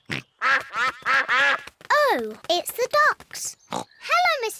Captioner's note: quacking